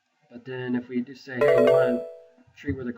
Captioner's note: computer chimes